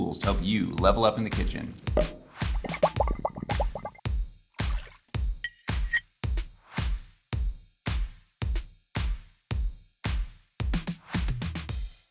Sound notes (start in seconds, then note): 2.4 drink bubbles; 2.5 cork pops